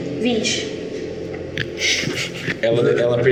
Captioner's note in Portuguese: risos